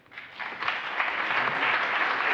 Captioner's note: applause